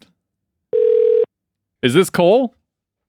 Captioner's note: phone ringing